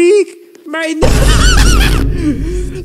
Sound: laughter

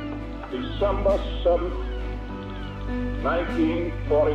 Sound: seagulls squawking

